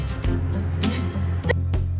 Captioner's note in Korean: 무음 웃음